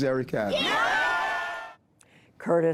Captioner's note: cheering and applause